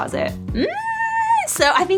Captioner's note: screeches uncomfortably